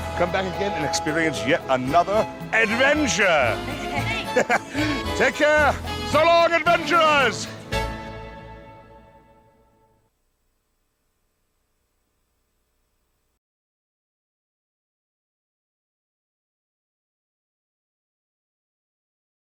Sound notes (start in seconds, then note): 3.5 all laughing